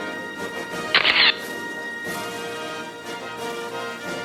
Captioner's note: camera shatters